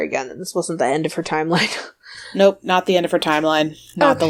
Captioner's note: laughs